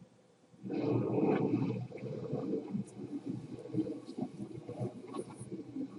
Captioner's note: gurgling